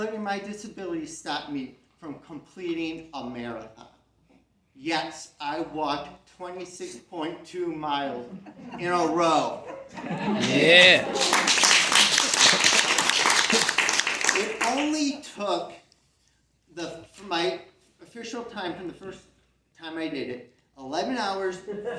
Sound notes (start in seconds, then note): 8.2 CROWD laughs; 10.3 CROWD claps